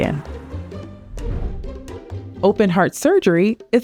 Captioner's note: transition whooshing